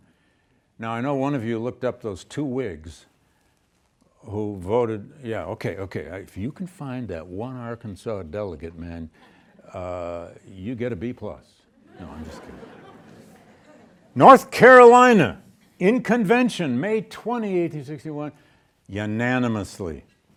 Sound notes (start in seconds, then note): 11.8 students laughing